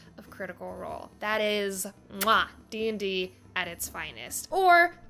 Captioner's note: smooches